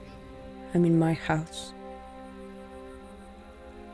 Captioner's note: none